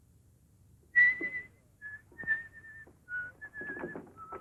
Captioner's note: whistling